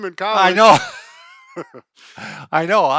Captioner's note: laughing